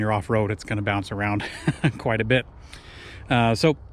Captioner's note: chuckles